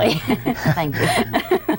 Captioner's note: all laugh